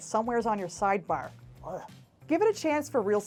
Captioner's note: disgusted noise